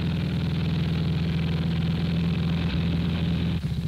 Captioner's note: engines roaring